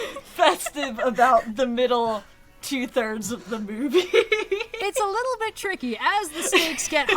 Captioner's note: laughs; laughs